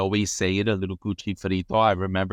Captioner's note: speaks in foreign language